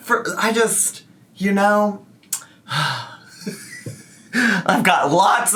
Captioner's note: exhales heavily and chuckles